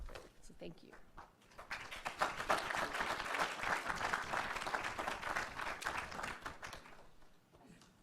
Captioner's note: applause